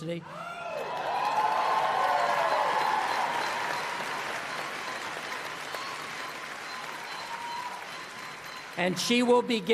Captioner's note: applause